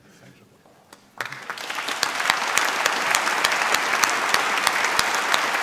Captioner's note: applause